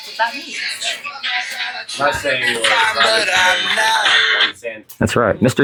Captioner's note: counting back from 13 ringtone